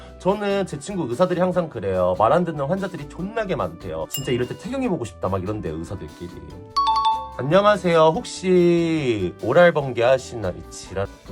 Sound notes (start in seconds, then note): 4.0 app notification sound